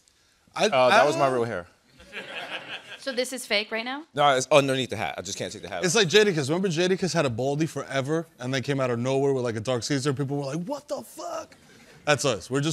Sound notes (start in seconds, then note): 1.9 laughter